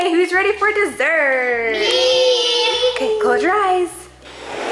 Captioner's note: children in unison